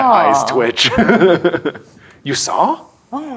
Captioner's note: laughs